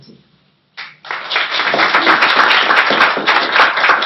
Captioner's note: applause